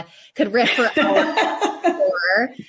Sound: laugh drains speech

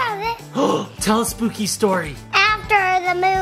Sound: exclaims

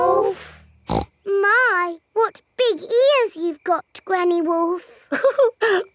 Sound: snorts; chuckles

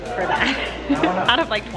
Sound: laughs

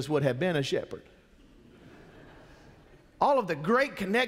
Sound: congregation chuckles

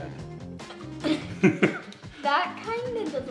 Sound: both laughing

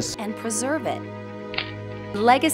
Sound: camera click

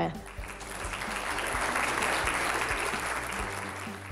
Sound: applause

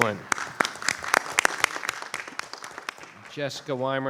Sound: audience applauding

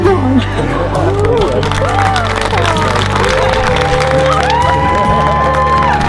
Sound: laughter and applause

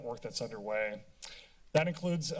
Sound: tongue clicking

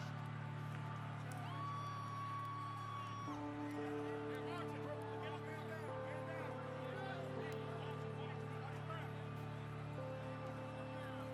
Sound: applause

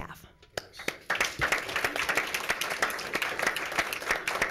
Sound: applause

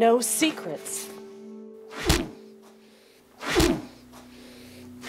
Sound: thwacking

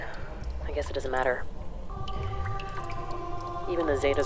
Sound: chanting gets progressively louder

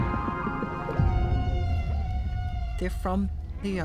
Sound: whales calling

